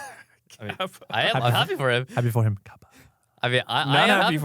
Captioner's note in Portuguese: risos